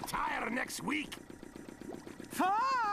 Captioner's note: engine running